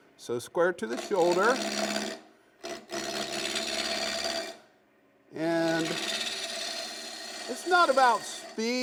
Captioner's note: scraping wood